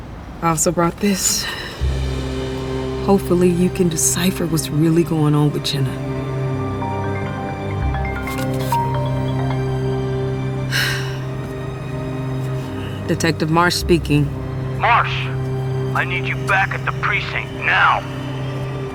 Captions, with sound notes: I also brought this. Hopefully, you can decipher what's really going on with Jenna. (phone rings) (sighs) Detective Marsh speaking. Marsh! I need you back at the precinct. Now.